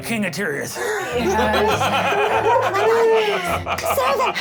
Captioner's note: laughs